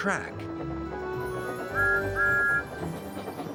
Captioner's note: toot toot